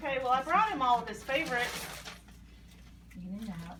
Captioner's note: rustling in bag